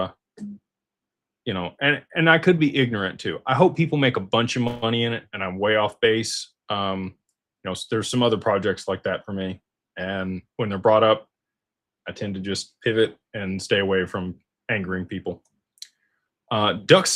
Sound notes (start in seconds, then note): none